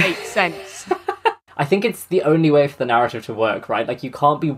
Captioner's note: laughs